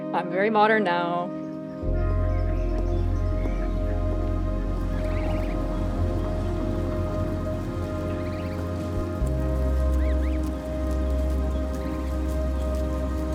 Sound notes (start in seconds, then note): 4.7 birds chirping; 7.4 calm music